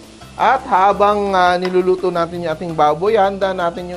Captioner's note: sizzle